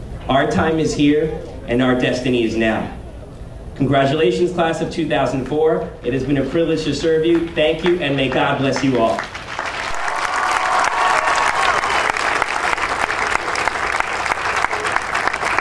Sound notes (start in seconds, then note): 8.8 audience cheering and applauding